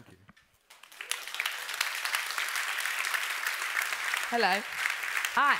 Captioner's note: applause